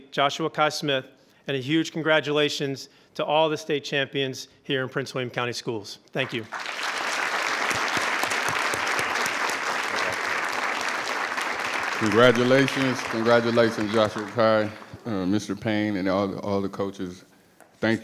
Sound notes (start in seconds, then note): 7.3 attendees applauding